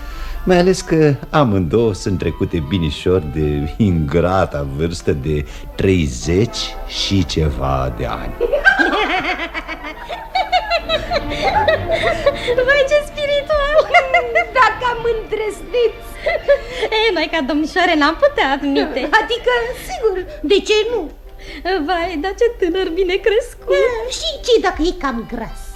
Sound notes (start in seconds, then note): 8.3 they both laugh